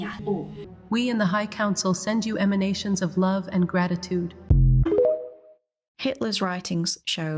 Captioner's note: TikTok bloop boop noise